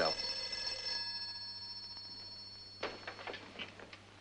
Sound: phone ringing

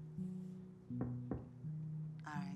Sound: knocks

